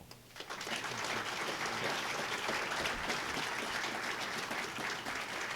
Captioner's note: applause